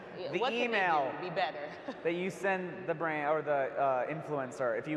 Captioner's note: laughs